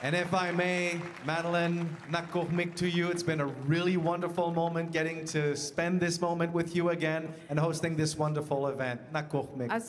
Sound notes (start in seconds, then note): 0.0 speaking French; 0.0 speaking Indigenous Language